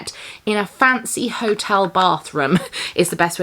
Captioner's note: chuckles